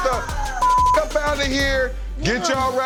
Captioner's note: beep